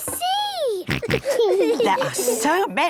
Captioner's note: snorts, giggles